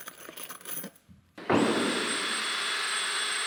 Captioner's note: whirring of a cordless drill